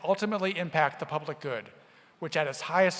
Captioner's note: none